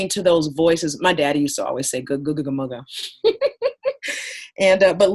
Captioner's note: laughing